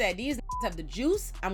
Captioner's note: beep